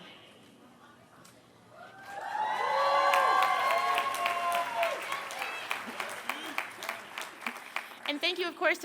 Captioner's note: applause